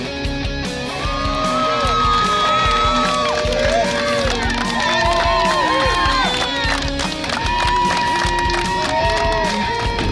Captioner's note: cheering & Clapping